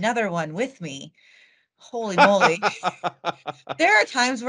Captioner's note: laughing